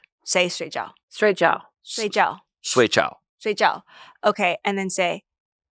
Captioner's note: speaks foreign language; everyone speaks foreign language; speaks foreign language